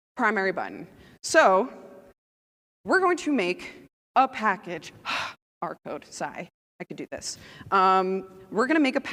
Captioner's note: sigh